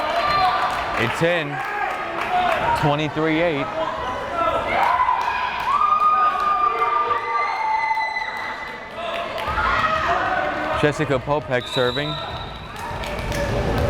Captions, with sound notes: It's in, 23-8! (crowd cheering) Jessica Popek serving.